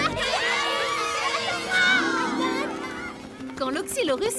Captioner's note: applause